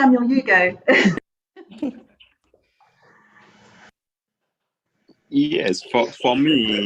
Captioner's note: laughs softly